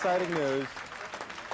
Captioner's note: crowd cheering